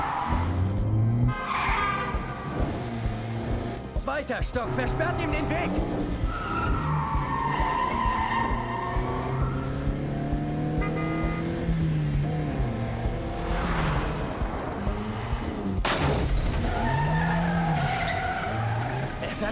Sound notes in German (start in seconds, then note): 9.6 hupen; 15.7 quietschende reifen